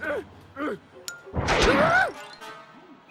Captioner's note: hollers